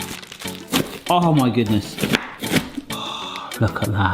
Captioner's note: paper rustling; knife thudding